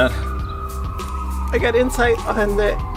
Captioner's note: sirens blaring